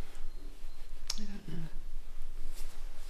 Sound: quietly

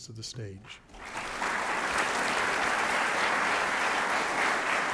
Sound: audience applauds

